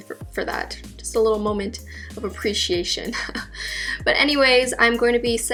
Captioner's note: laughs